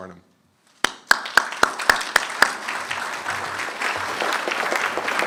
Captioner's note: applause